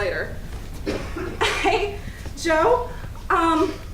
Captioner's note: giggling nervously